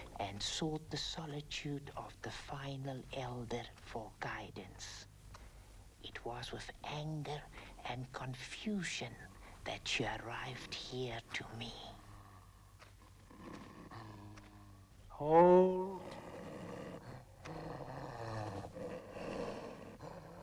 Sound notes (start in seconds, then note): 13.0 dog growling